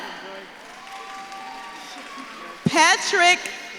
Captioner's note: audience claps and cheers